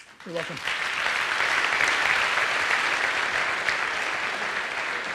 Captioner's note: audience applauds